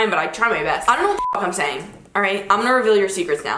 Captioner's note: beep